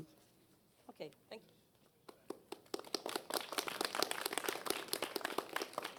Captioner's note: applause